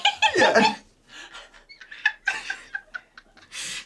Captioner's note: everyone laughs